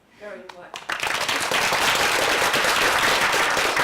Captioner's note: applause